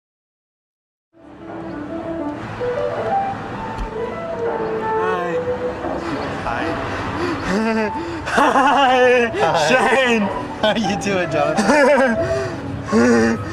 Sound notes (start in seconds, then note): 2.0 soft piano music; 8.0 laughing; 12.1 laughing